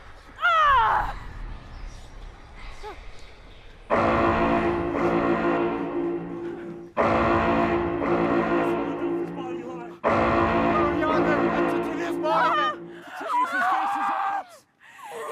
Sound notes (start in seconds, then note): 0.4 groans; 2.4 alarm sounding